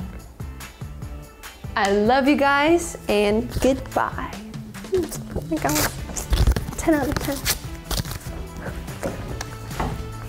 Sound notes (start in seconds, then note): 0.2 lively music; 7.4 paper tearing; 8.9 chair clatters